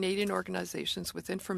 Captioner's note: speaking French